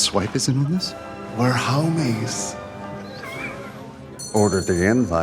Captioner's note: laughs